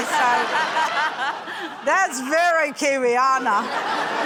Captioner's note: laughter